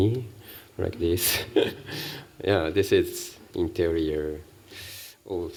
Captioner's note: laughs